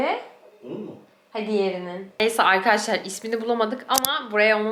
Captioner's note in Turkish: boğazını temizler